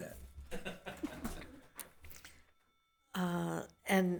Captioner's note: member laughs